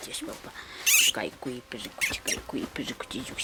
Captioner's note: guinea pig squealing; speaking foreign language